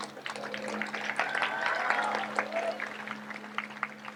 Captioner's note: audience applauds